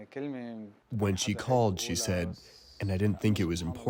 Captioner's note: through translator